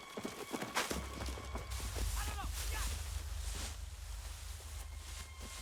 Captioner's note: man Yelling In Korean